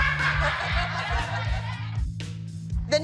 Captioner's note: laughter